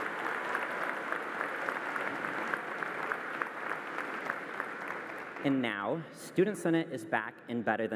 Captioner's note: applause